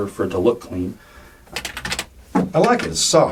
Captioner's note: clacking